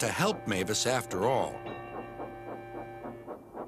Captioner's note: dings bell